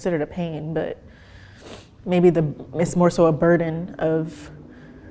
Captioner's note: sniffs